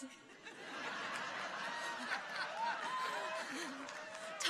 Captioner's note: audience laughs